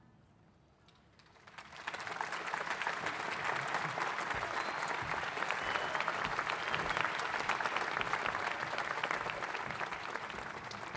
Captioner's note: applause